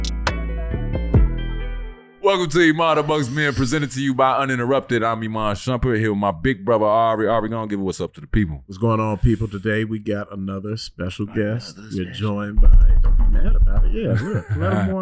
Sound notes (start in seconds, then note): 12.5 drum role on table; 14.0 chuckles